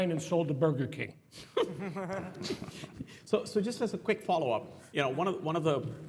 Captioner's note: laugh